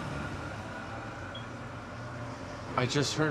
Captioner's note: alarm beeping